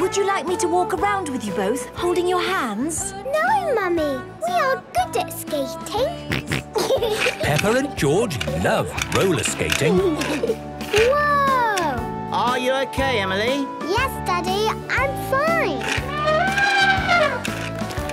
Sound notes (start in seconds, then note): 6.2 snorting and giggling; 10.2 laughter; 15.7 trumpeting